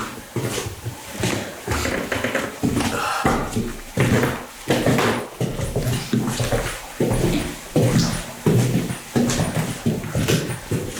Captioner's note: creaky floorboards as they walk